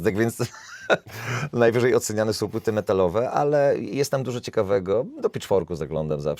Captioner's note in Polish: śmiech